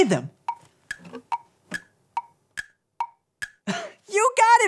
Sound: clock ticking

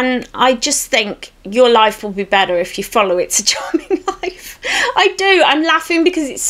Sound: giggles

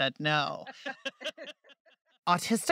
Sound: laughter

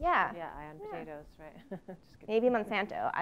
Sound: laugh

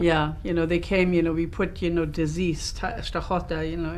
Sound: russian

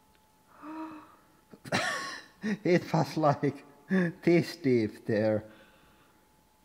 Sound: gasp; laughs

